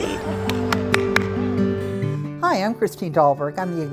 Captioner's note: clapping loudly